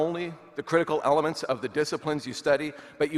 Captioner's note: none